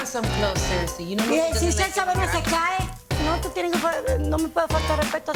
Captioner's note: speaking Spanish